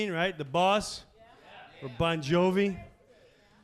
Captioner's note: crowd